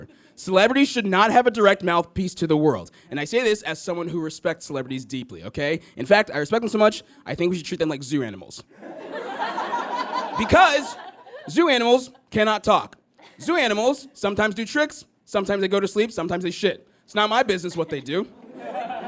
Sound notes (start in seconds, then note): 8.8 audience laughs